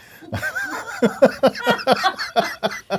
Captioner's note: laughing